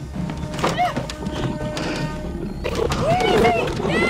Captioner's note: Screams